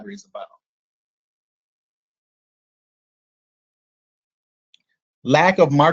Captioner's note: silence